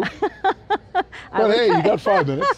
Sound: laughs

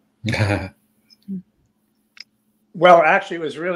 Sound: laughing

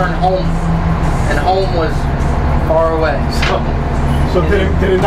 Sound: laughs

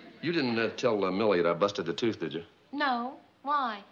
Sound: none

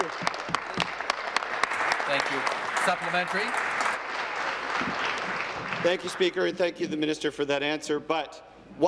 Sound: applause

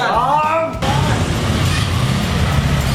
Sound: engine starting

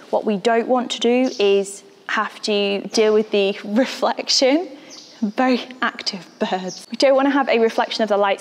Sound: birds

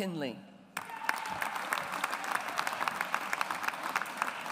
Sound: audience applauds

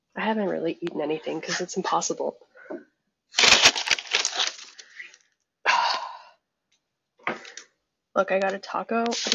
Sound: fast food bag rustling

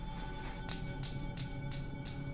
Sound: clacking

